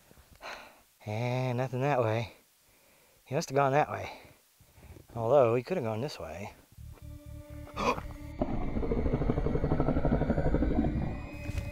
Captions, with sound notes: And nothing that way. He must have gone that way. Although, he could have gone this way. (gasps) (low growling)